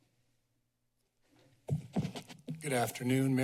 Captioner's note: microphone tapping